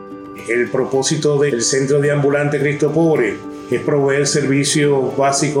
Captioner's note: speaks foreign language